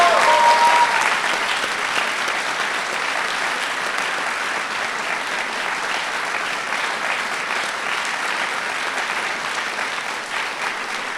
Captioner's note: applause